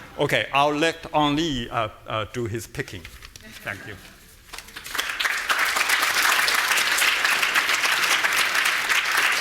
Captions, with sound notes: Okay, I'll let Ang Lee do his picking. Thank you. (audience applauding)